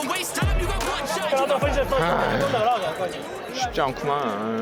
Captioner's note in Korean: 한숨